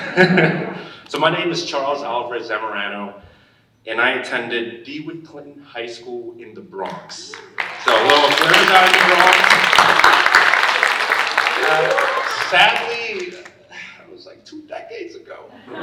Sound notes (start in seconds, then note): 0.0 all laughing; 7.3 audience applauding